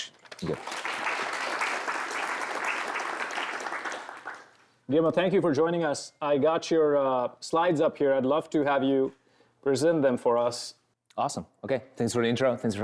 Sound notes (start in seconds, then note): 1.8 applause